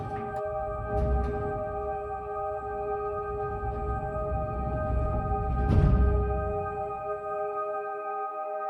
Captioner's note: garage door opening